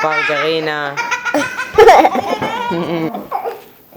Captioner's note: wild laughter